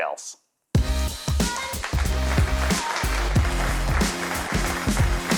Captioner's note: applause